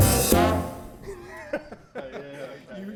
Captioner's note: laughter